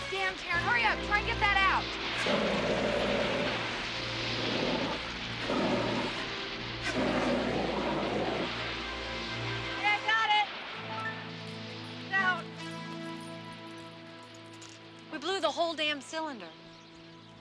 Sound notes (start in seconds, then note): 1.8 fire extinguisher whooshing